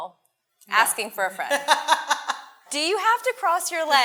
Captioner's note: laughs